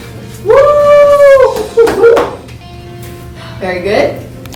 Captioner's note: cheering and clapping